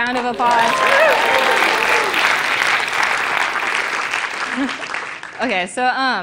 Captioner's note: applause